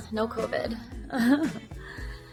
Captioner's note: laughs